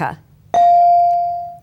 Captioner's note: bell rings